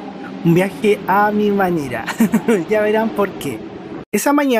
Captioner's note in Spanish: risas